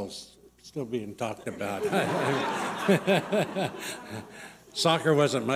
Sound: laughter

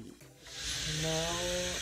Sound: machine hisses

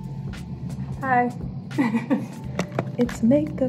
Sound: giggles

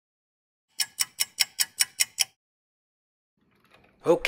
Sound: sound effect of a ticking clock

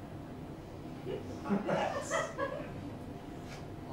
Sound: laughter

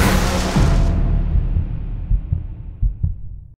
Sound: dramatic music; heart beating

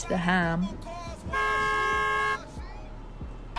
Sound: car horn

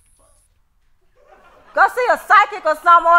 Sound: TV lulling

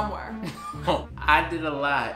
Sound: laughs

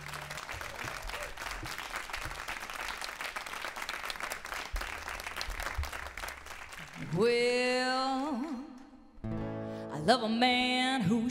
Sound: applause

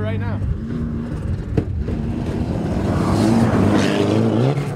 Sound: engine revving

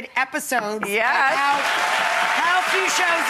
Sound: audience claps

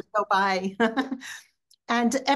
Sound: chuckling

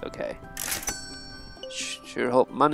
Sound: cash register dings

